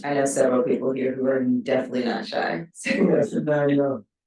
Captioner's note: chuckles